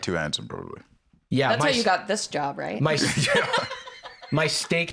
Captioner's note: laughs